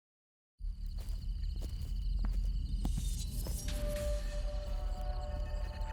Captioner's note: metallic, eerie noise